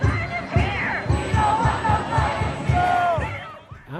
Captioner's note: crowd